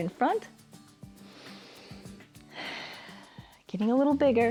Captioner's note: inhales and exhales